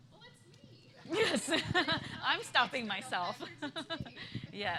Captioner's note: laughter